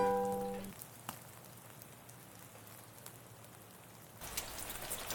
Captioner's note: rain falling